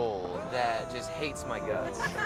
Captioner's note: laughs